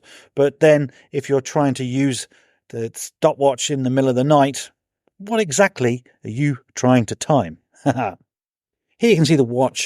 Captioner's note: haha